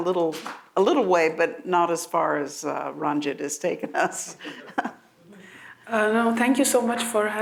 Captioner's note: laughs